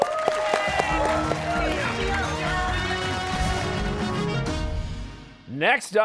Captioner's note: cheers and applause